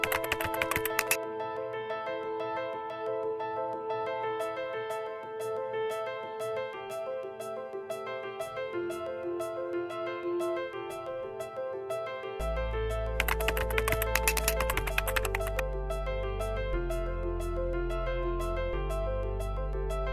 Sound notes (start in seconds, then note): 0.0 clicking; 2.1 light piano music; 13.2 clicking; 16.9 light piano music